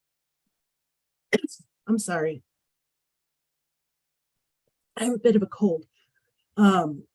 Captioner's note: coughs